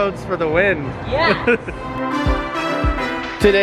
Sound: laughing; happy music

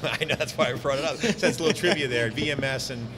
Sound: both laughing

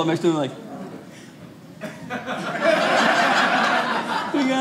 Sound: audience laughing

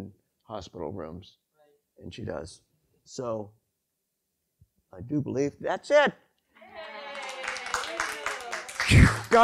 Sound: applause

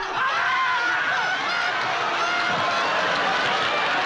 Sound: applause

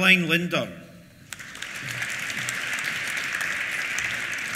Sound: applause

